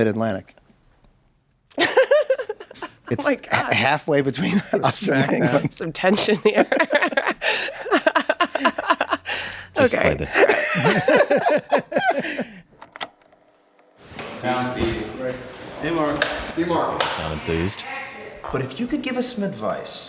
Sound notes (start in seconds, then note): 4.2 laughs; 10.3 laughs; 12.2 group laughs